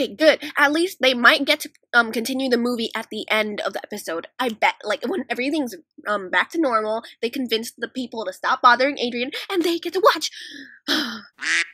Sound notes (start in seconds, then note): 10.4 sigh; 11.4 quack